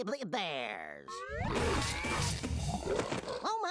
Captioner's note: growling